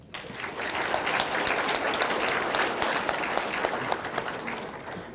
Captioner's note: audience clapping